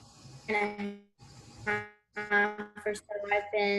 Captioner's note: interference